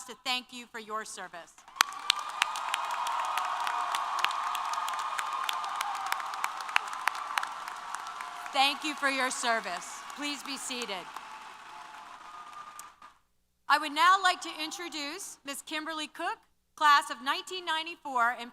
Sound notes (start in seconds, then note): 1.6 applause & Cheers